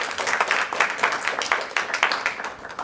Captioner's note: applause